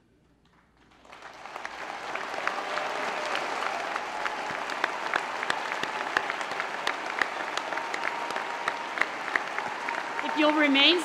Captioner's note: applause